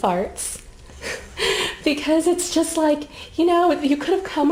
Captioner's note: chuckling